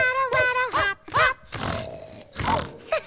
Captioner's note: snore snore